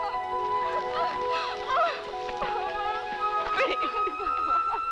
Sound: sobbing

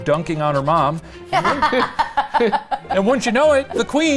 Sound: laughing

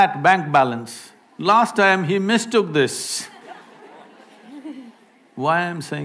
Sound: laughter

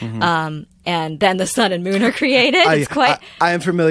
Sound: laughter

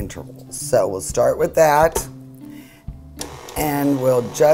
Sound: mixer whirs

